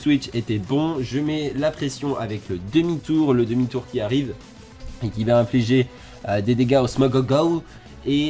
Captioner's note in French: Weezing again